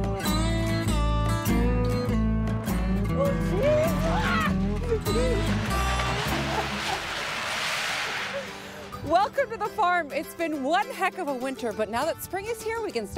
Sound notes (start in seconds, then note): 3.8 exclaiming; 5.1 silo crashing